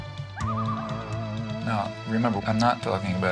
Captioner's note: people hooting; somber music; loon calling